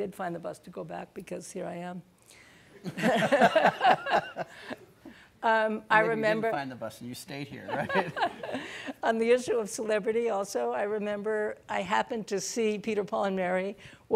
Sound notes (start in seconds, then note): 2.9 audience laughing; 2.9 laughs; 7.7 laughing